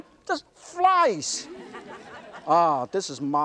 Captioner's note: audience laughter